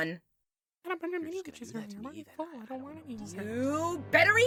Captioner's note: balloon & nickel whisper quietly